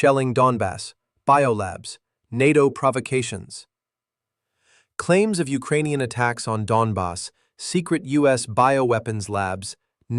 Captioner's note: sarcastic